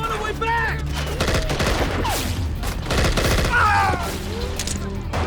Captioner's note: gunfire rattling; man screams